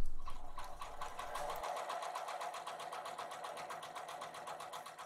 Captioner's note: sewing machine humming